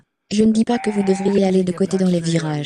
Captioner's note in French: crissement